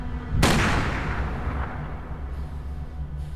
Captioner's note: gunshot